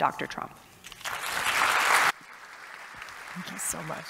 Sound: audience applauding

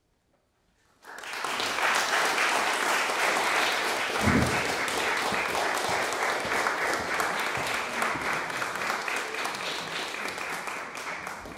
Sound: audience applauding

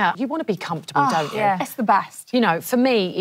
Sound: sighs

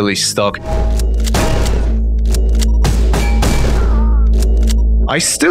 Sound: metal impact sounds, pumping shotgun

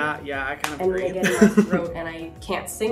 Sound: Hyram laughing

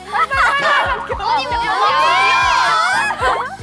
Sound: unable to proceed due to laughter

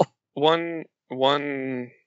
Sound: laughs

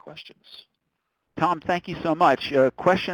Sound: voiceover

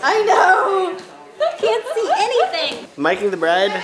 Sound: laughter

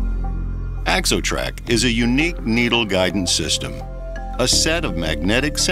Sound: voiceover

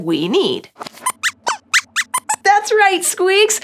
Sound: squeaks squeaks

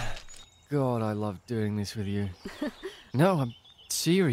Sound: laughs

